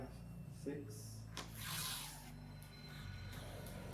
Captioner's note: door creaking